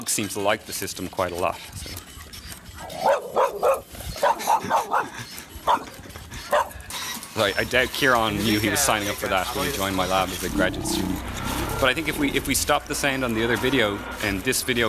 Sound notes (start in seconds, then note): 2.9 dog barking